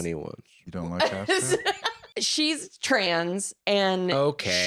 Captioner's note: laughs